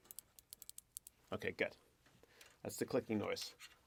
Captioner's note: switch clicking